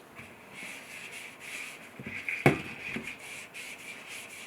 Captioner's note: rag scratching